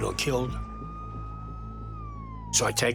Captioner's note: siren blaring